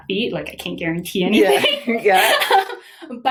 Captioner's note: laughs